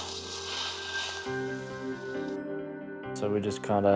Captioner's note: sound of skiing video recording on iPad